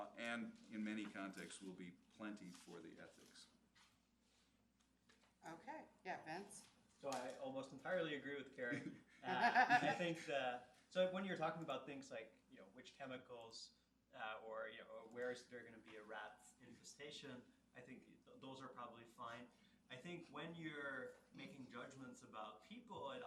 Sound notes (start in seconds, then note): 8.7 laughs